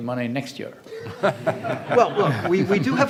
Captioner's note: audience laughs